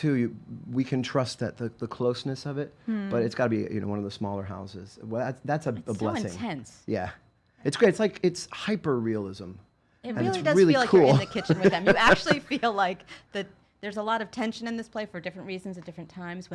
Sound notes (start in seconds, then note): 10.9 laughing